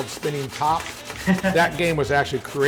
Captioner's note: laughing